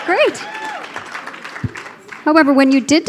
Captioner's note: cheering